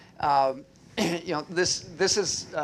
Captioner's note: clears throat